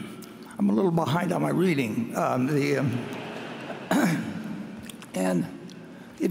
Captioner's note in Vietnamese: cổ đông cười